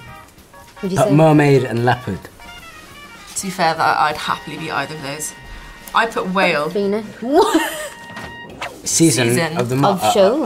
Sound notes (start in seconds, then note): 7.2 laughs; 8.4 air whooshes